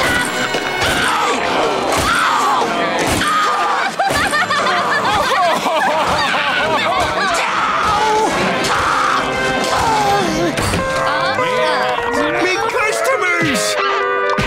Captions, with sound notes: [screaming] [crying] [screaming] My customers!